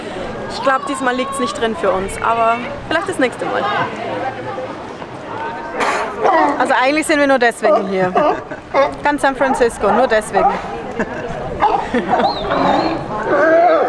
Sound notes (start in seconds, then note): 6.2 sea lion calls; 11.1 laughs